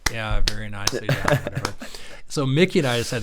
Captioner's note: laughing